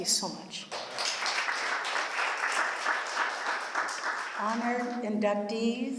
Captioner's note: applause